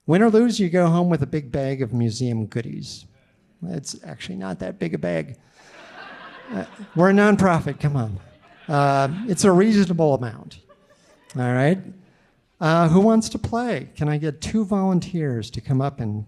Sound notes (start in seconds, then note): 5.6 audience laughing